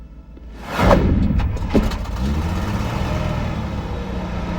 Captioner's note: engine starts